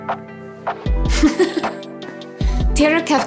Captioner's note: laughs